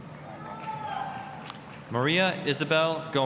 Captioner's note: applause, cheering